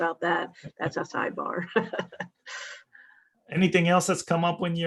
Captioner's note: laughs